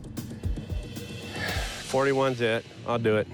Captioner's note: sighs